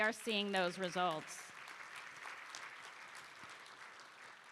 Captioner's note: applause